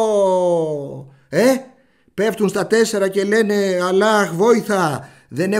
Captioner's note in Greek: Oooohοοο